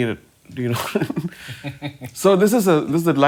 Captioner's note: chuckling